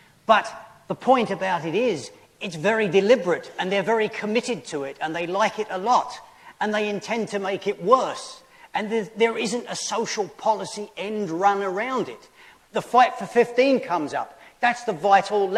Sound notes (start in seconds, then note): none